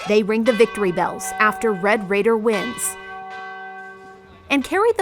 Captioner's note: bell ringing